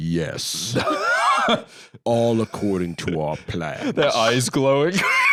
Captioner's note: laughs